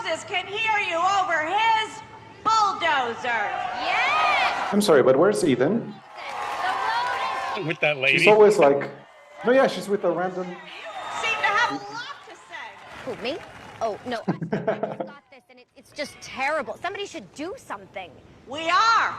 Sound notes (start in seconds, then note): 2.9 cheering